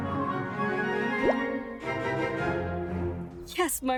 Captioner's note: text bubble pops